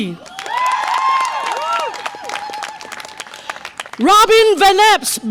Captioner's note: audience applause and cheer